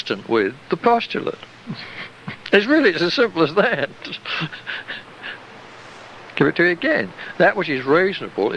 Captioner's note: chuckle